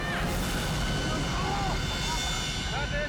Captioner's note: people yelling